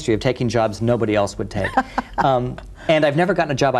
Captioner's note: laughs